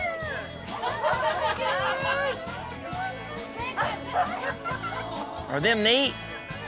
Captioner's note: everyone laughing